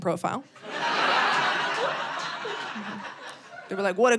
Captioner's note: audience laughing